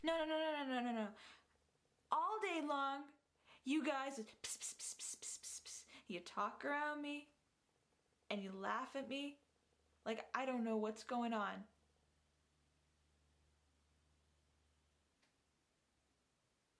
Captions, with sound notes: - No, no, no, no, no, no, no. All day long you guys. (vocalizes whispering) You talk around me and you laugh at me like I don't know what's going on.